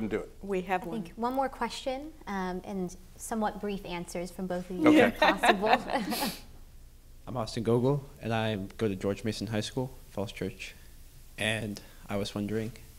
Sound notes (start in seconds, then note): 4.8 laugh